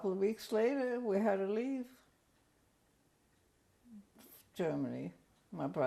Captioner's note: pauses for 3 seconds